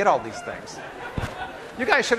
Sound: class laughing

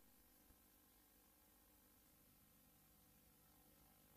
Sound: VHS static

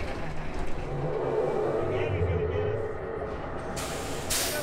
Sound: tires screeching; loud crash

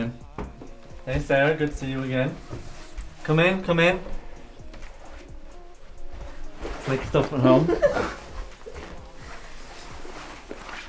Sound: girls giggle

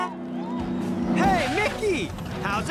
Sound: horn honks

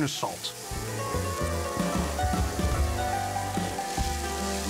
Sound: sizzling

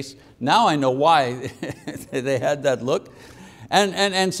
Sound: laughing

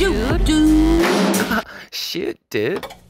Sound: man laughing

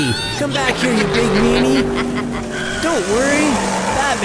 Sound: witch makes cackling sound

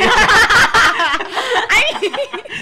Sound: laughs

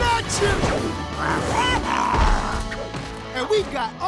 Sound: roaring

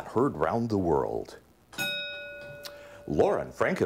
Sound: ding

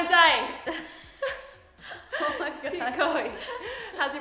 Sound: laughs

